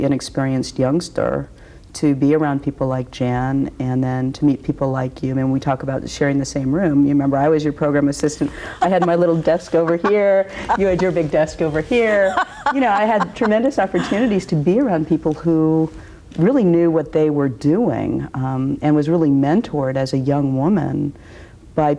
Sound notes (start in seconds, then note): 11.9 laughs